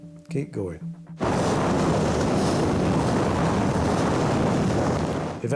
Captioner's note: waves roaring